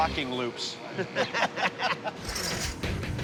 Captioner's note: laughter